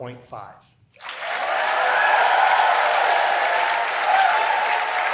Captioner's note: applause